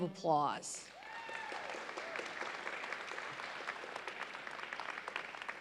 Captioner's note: audience applauds